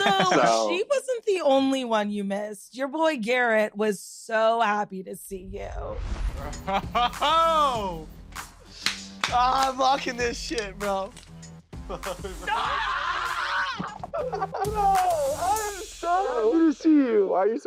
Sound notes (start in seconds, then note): 8.7 man claps; 12.7 man yells